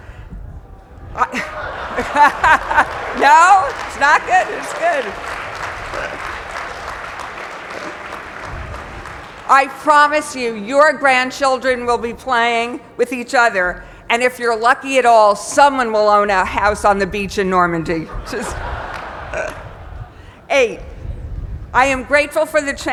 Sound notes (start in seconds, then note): 0.9 laugh; 5.6 applause; 18.0 laugh